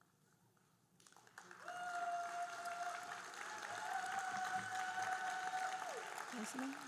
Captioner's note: audience cheering and applauding